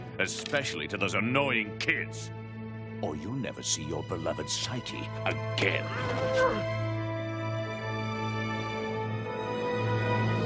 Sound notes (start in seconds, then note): 5.9 muffled screaming